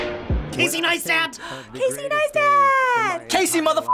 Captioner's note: gasps